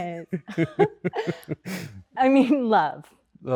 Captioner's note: both laughing